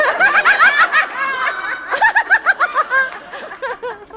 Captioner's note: laughs